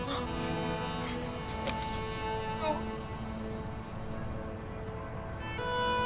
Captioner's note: weeping